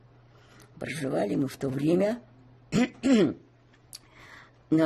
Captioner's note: clears throat